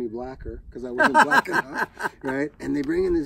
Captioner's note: Maurice laughing